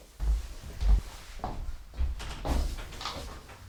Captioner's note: door closes